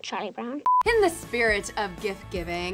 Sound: short beep

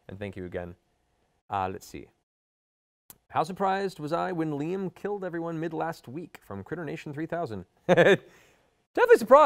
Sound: laughs

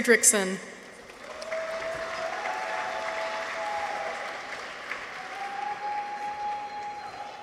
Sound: audience applauds; people cheer

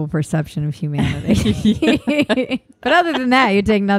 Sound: laughing

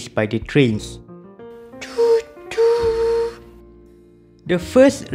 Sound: choo choo

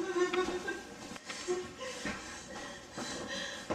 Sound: breathing heavily; sobbing; breathing heavily

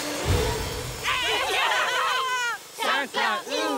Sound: cheering

